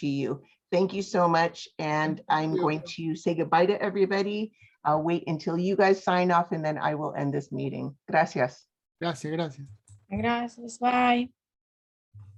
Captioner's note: speaks spanish